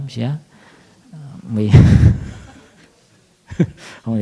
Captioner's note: laughter